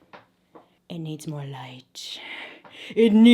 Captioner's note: heavy breathing